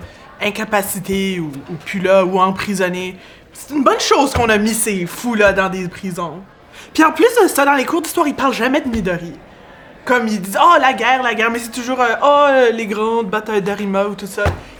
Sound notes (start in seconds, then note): none